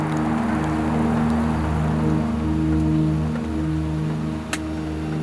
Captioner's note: rain falling